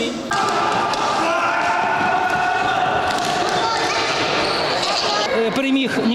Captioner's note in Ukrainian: вигуки дітей